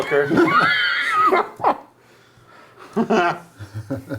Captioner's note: wheezing